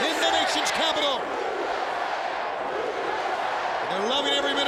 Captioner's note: crowd chants "USA"